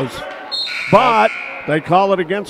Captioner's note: whistle blows; buzzer sounds